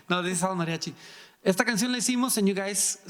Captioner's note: speaking in foreign language